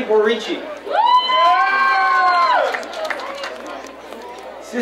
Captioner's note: crowd cheering